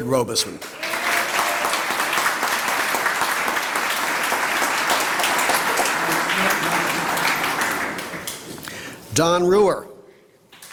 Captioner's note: applause